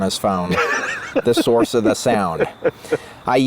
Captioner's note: laughs